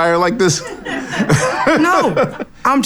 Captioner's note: laughs